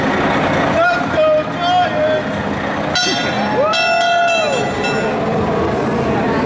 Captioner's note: fire engine bell clanging